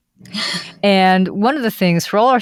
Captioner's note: laughs